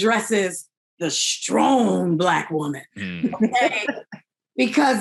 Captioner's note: all laughing